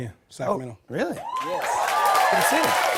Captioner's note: cheers and applause